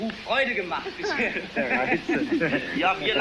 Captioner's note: amused reactions